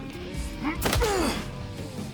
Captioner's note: punch, grunt